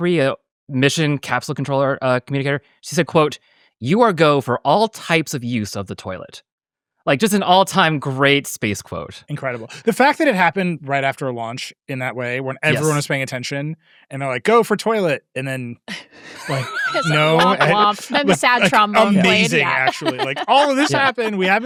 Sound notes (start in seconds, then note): 16.3 everybody laughing; 20.4 laughs